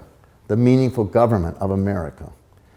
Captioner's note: none